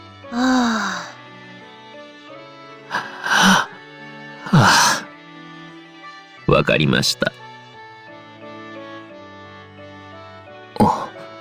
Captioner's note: sigh